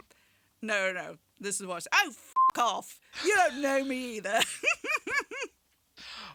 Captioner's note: laughs